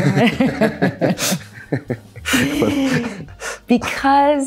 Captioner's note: both laughing